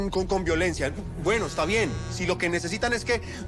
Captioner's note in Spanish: Vibra el celular